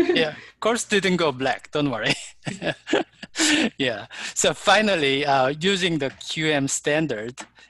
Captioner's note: laughter